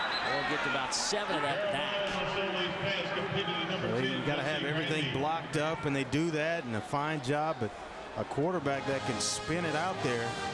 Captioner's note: crowd noise